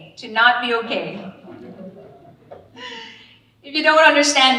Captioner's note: all laughing